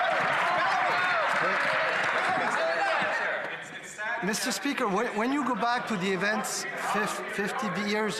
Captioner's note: applause